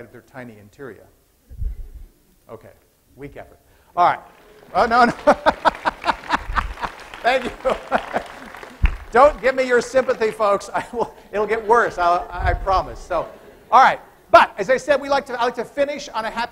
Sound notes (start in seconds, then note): 4.2 applause; 4.3 laughs